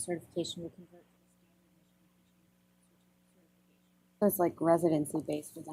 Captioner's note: audio drops